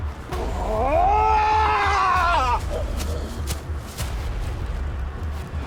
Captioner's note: Malkam screaming; intense music